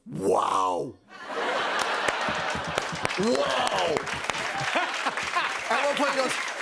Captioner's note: laughter